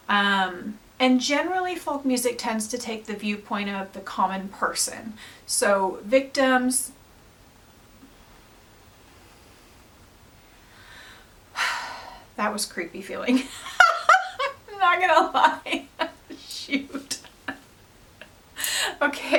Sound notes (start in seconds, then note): 8.6 sigh; 13.4 laughs